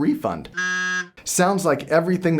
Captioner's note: beeps